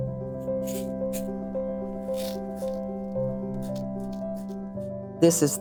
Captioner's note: quiet music plays; loose beads shift in box